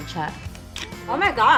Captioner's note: clicks tongue